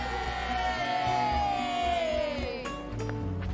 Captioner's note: Anak Laki-Laki Bersorak